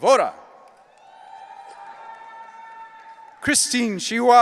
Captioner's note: audience cheering